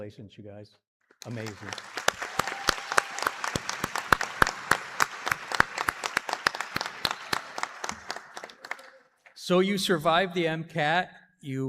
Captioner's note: applause